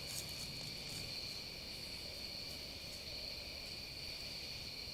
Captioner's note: nighttime soundscape continues